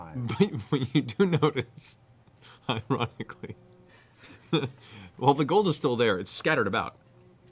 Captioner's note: laughing